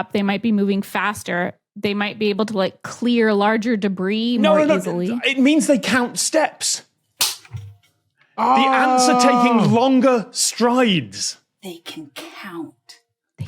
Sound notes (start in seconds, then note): 7.1 claps